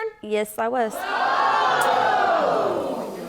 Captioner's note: audience groans